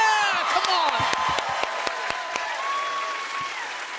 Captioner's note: audience cheering